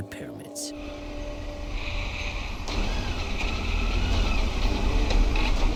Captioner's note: motorbike revving; action music